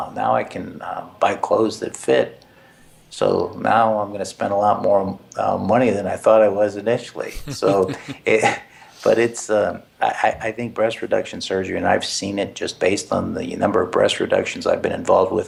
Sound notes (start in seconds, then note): 7.2 laugh